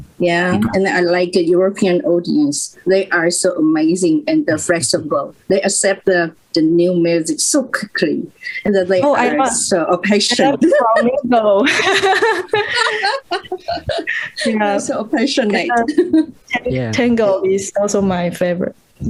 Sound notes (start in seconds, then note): 8.6 voces; 11.6 risas